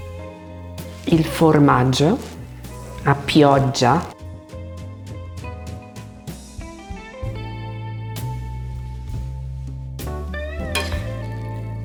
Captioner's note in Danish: taler italiensk